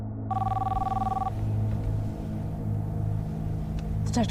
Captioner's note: phone ringing